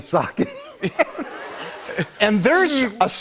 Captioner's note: laughter